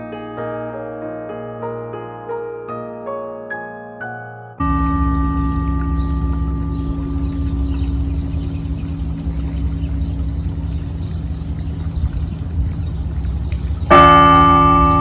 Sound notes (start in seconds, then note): 4.6 bell tolls; 9.1 sound of rippling water; 13.9 bell tolls